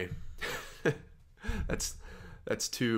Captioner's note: chuckles